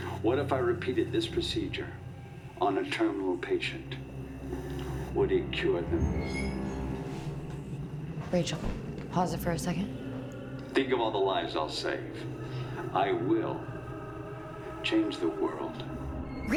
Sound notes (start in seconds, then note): 6.8 object creaks